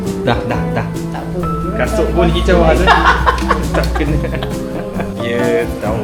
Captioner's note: laugh